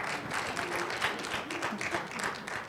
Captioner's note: applause